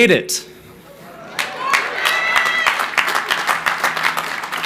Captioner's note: crowd cheering